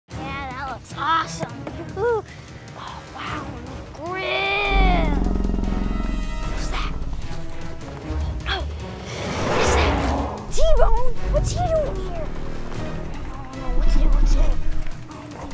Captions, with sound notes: - Yeah, that looks awesome! Oh wow, grim! (growling) What was that? Oh, what is that? T-bone! What's he doing here? What to do-what to do.